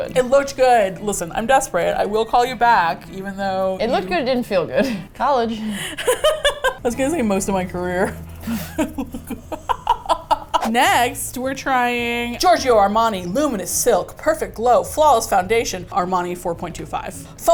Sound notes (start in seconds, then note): 5.6 laughs; 8.4 both laugh